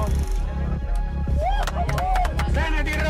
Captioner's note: applause